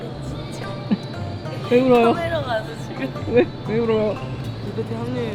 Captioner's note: suddenly starts crying